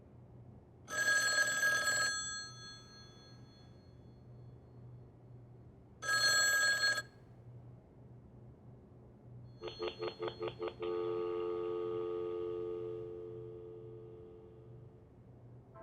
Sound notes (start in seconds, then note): 0.9 phone rings; 6.0 phone rings; 9.7 line busy